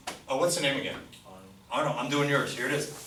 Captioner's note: voiceover